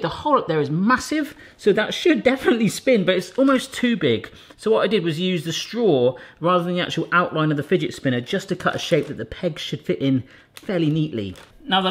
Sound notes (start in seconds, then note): none